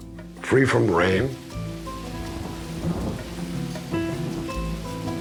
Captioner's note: rain pattering; thunder rumbling